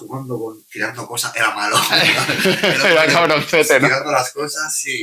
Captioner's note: risas